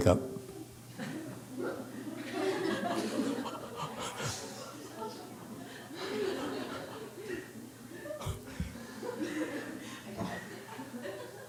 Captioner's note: audience laughs